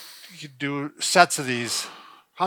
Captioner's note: inhales; exhales